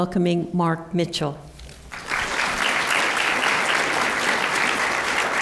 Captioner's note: applause